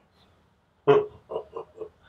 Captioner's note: Papa laughs